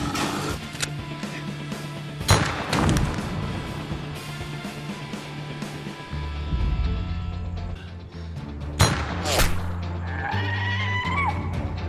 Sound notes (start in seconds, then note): 2.3 BANG-pop; 8.7 BANG-swoosh; 10.1 now eternally high-pitched cry of orcish suffering